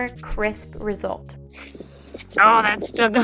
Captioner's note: paint spraying